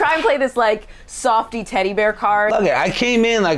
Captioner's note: all laughing